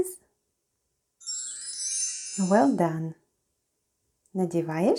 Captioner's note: chime sound